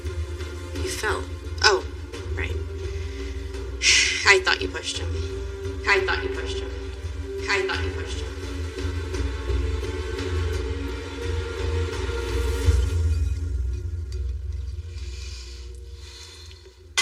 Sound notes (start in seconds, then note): 5.1 echoingng; 8.1 dramatic c music; 14.8 deep breath